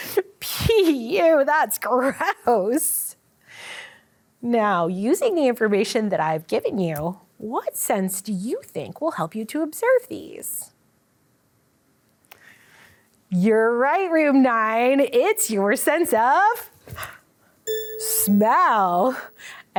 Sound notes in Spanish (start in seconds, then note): 16.8 jadea; 17.6 sonido de campana